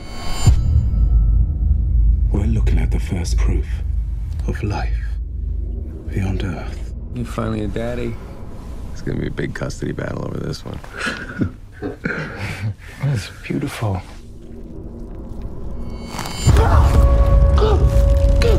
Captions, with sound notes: We're looking at the first proof of life beyond Earth. - You're finally a daddy. It's going to be a big custody battle over this one. (laughs) - That is beautiful. (screams)